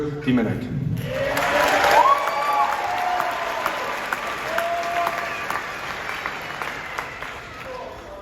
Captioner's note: applause